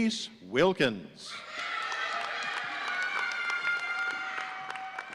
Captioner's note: audience cheering